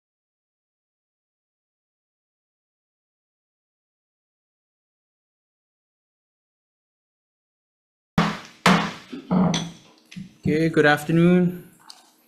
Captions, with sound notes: (gavel bangs) - Okay, good afternoon.